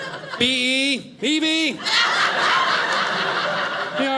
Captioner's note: audience laughing